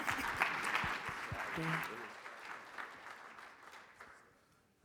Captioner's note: audience clapping